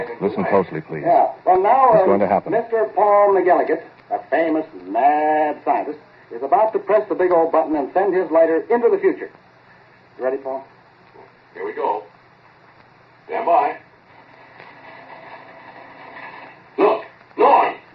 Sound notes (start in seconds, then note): 0.3 narrates, over the voices, urgently; 13.6 crackling